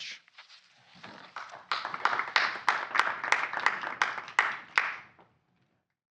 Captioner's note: applause